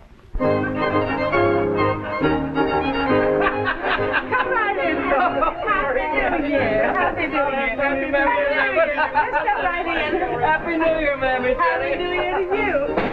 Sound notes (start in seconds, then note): 3.5 laughter - wishes happy new year